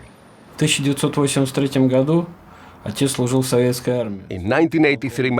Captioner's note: speaking in Russian